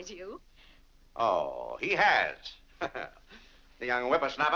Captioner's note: laughs